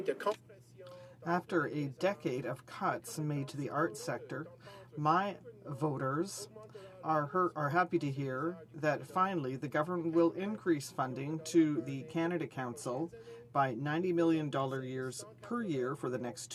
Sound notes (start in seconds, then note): 2.9 speaking in French